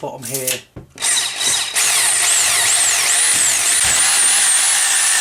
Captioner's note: hole drilling